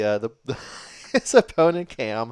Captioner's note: chuckles